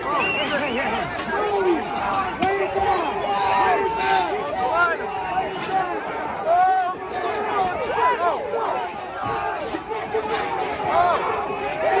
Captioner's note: shouting